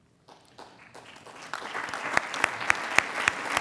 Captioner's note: applauding